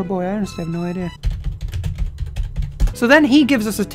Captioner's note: frantic typing